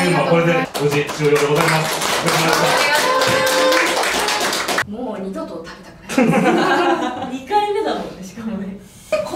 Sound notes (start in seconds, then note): 0.6 applause